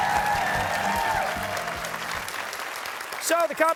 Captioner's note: cheers and applause